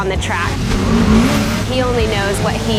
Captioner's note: engine revving